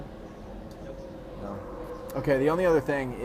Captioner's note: voiceover